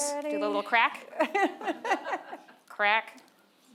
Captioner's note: and audience members laughing